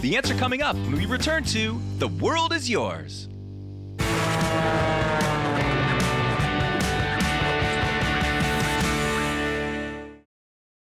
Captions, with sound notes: The answer coming up when we return To The World is Yours. (airplane engine) (upbeat guitar)